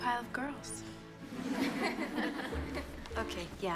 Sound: girls snicker

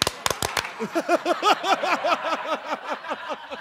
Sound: clapping; laughter

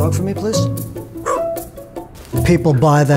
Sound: parrot barking

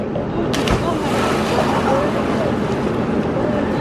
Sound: splashes

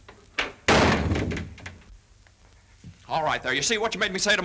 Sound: door slams

